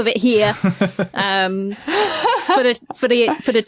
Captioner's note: laugh